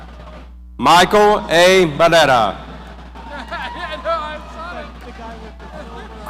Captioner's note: people laughing